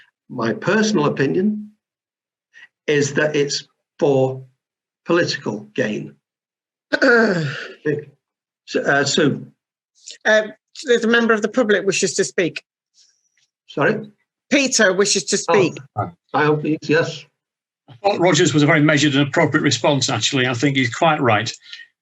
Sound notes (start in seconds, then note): 7.0 loud groan